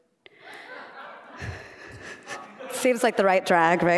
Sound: laughter

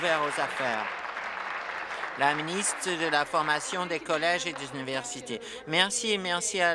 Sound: applause

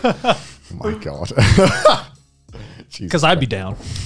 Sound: chuckling

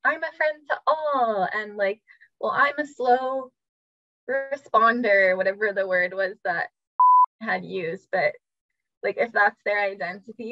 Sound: beep

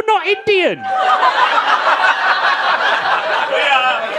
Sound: audience laughing

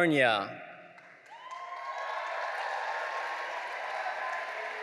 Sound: audience cheering

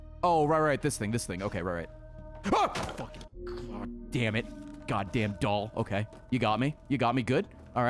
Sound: screams

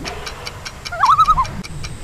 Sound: loon call

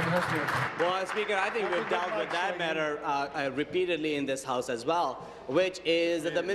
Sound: applause

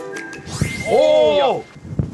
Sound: suddenly, a strong wind

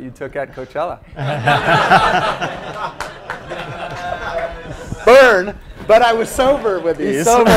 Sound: laugh; laugh

